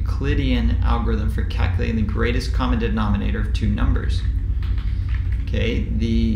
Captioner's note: keyboard typing sound